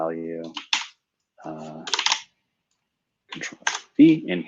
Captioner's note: typing